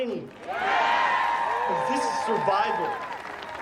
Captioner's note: audience applauds and cheers